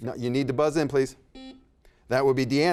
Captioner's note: buzzer beeps